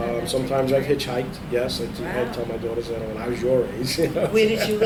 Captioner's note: laughs